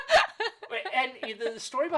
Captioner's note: laughing